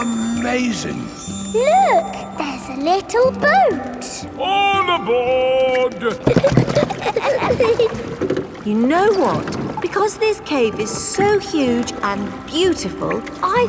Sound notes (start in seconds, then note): 6.0 giggling